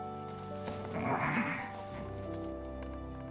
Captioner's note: groans